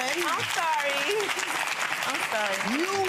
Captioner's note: audience clapping